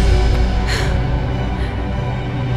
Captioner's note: Shreya sharply exhales